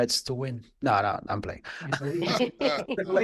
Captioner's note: laughing